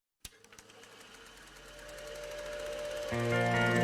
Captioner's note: reel-to-reel player starting